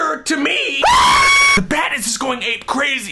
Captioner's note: screaming